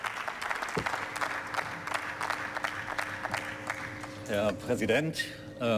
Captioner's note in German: Beifall